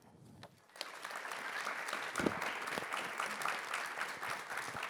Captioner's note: attendees applaud